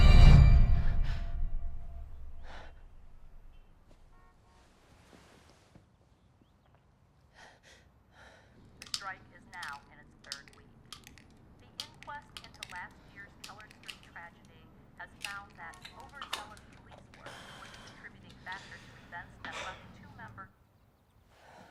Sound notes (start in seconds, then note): 2.4 Bryn huffing; 11.1 tablets clicking